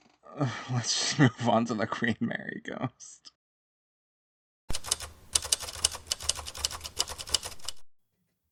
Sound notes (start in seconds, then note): 4.7 typewriter typing sound